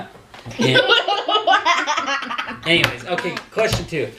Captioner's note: laughing